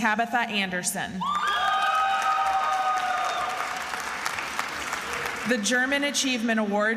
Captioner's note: attendees applauding and cheering